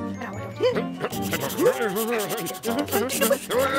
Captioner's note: scribbling hastily